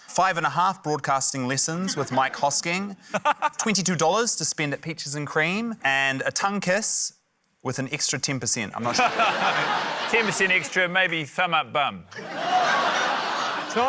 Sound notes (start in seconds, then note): 8.8 laughter; 12.9 laughter